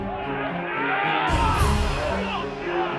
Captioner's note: yelling